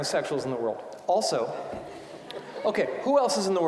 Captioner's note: audience laughing